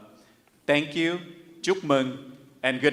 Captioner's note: speaks in Vietnamese